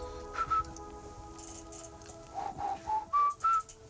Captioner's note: whistling